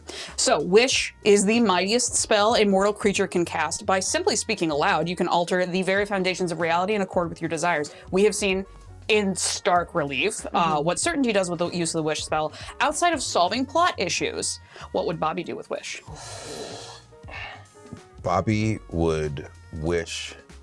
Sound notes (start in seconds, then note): 16.1 inhales sharply